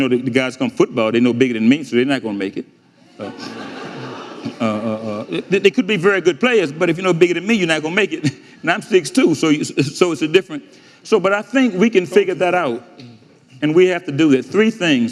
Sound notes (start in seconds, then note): 3.1 audience laughing